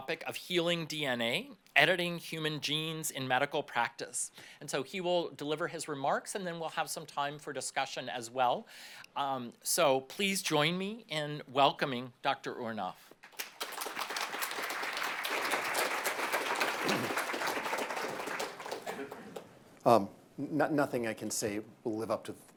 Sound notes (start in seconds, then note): 13.2 applause